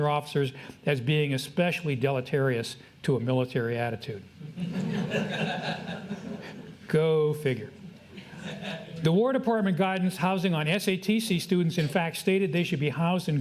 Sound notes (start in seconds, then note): 4.5 audience laughs